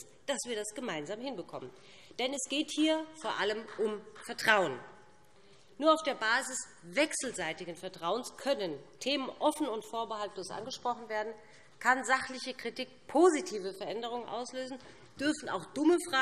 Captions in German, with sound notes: dass wir das gemeinsam hinbekommen. [Beifall BÜNDNIS 90/DIE GRÜNEN] Denn es geht hier vor allem um Vertrauen. Nur auf der Basis wechselseitigen Vertrauens können Themen offen und vorbehaltslos angesprochen werden, kann sachliche Kritik positive Veränderungen auslösen, dürfen auch dumme Fragen